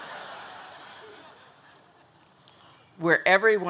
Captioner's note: audience laughing